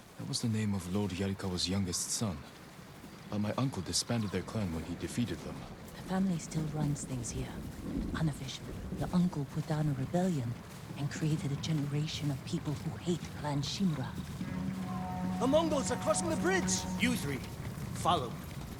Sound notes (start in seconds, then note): 14.4 alarm